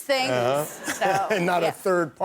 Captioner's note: laughter